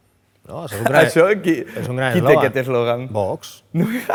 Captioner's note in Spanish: ríe